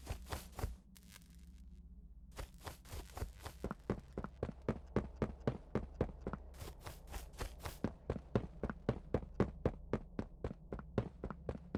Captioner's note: footsteps